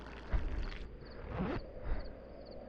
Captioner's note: urination stops, fly zips up